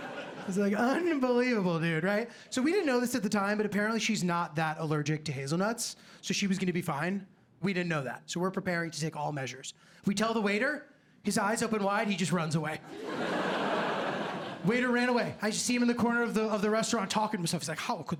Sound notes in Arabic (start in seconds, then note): 12.9 ضحك